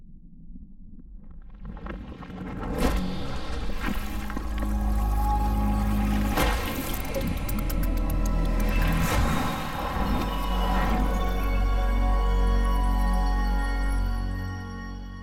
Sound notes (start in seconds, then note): 2.0 water absorbing; 5.8 digital synth music plays